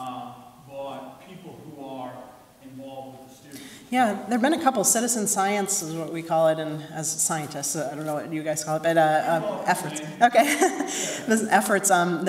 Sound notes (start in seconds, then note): 9.0 murmuring; 9.2 laughing